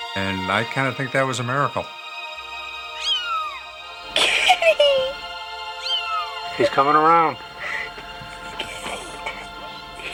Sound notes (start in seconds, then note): 0.0 heartwarming music; 3.0 kitten mewls; 5.8 kitten mewls